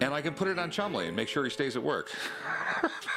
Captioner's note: laughs